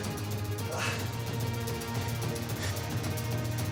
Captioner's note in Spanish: quejidos